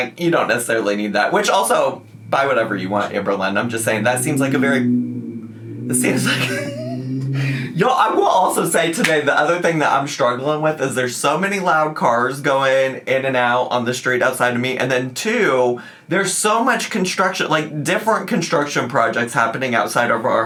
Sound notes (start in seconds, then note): 5.3 car revving in background; 6.0 laughs